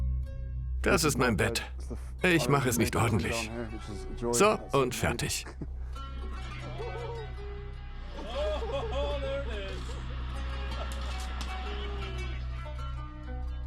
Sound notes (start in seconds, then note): 4.4 laughs; 5.8 slow instrumental music; 8.2 voiceover; 10.5 slow instrumental music